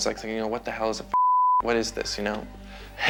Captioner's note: beep